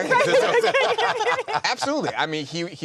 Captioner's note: all laughing